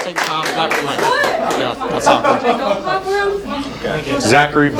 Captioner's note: talking